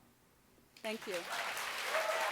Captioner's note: audience applaud